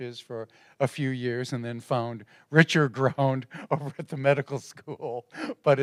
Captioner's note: laugh